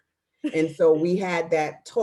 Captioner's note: laughing